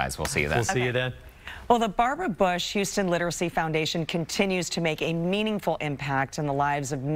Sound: laughter

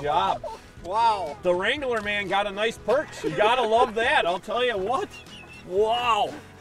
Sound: laughing

